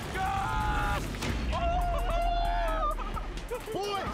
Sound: laughing

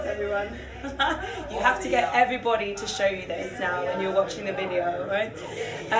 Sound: laughs

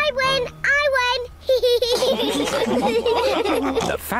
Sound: all laugh

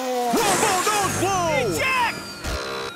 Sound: Wormhole Nose Blow

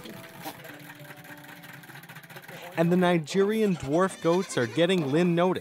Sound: voiceover

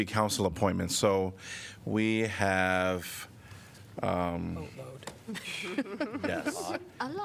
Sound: laughter

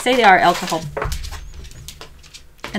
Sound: dog scuffles more

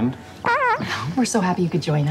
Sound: man farts

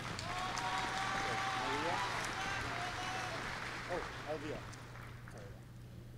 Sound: applause

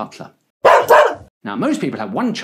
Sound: dog bark

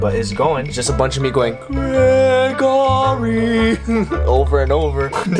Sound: laughs

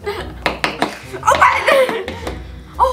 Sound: banging

